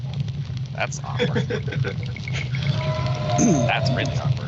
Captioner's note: laughing